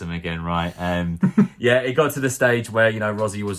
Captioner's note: man laughs